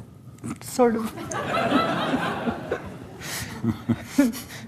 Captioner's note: laughs